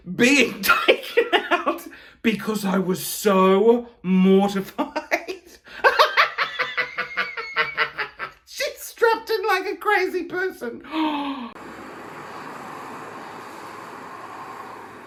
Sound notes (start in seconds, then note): 4.7 laughing; 10.9 gasps